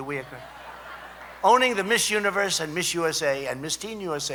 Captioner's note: laughter